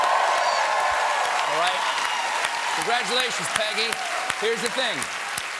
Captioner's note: cheers and applause